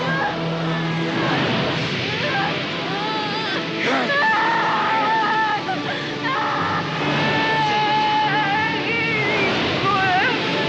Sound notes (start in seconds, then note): 1.2 flames whoosh, Rachel cries; 2.9 Lisa cries